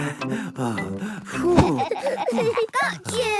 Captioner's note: all laughing; panting